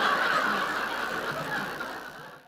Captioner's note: laughter